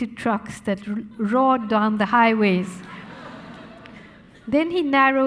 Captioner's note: audience laughing